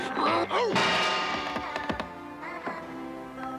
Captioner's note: crash